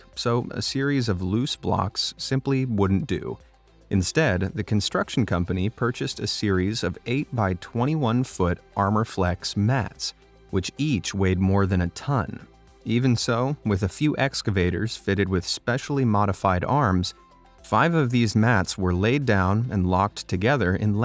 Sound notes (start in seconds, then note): none